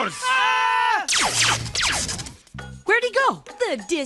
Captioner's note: both screaming